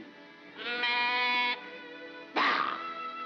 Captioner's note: sheep baas